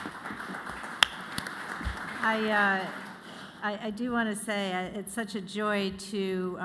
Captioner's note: applause